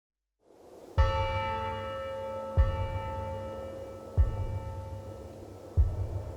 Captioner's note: wind blowing; soft western music; wind blowing